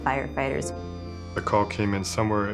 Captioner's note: siren wailing